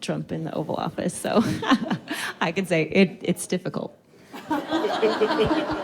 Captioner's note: laughs; all laughing